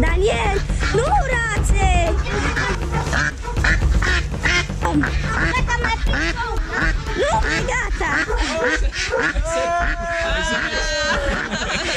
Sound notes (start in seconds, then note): 0.1 speaking Romanian; 2.9 duck quacking; 5.0 speaking Romanian; 8.6 duck quacking